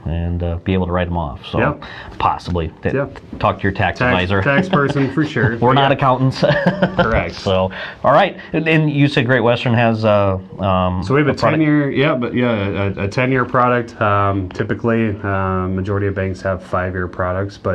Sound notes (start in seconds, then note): 7.0 laughs